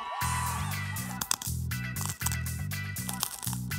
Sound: bread crunching

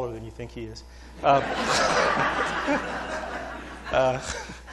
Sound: laughter

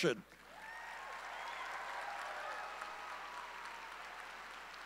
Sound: audience cheering

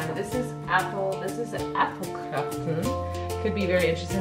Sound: speaking in foreign language

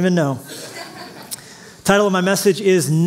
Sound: laughter

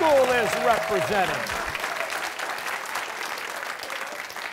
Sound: applause

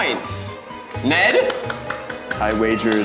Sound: clapping

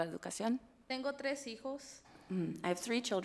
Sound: speaks foreign language

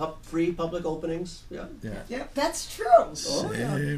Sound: voiceover

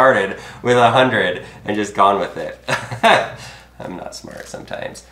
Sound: chuckles

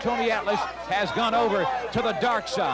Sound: audience cheers

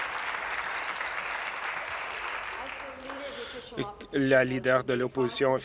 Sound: cheers; applause

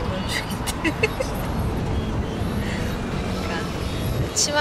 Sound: laughing

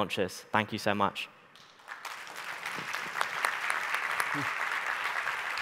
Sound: audience applauding

